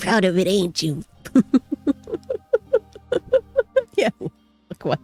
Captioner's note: laughs